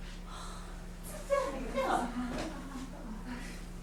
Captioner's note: sailors arguing in grammelot